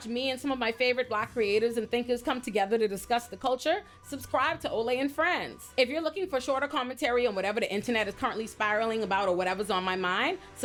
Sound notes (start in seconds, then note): none